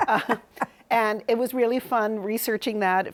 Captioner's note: laughs